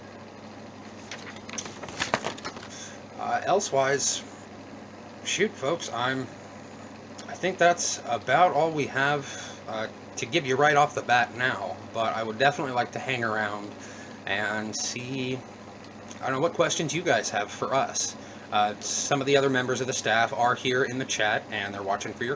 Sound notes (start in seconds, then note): 0.8 notes shuffling